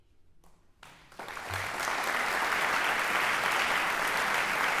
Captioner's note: audience applauding